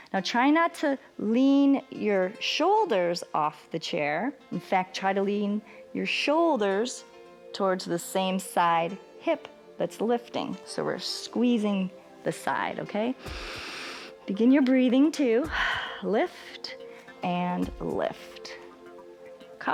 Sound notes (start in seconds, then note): 13.2 inhales; 15.6 exhales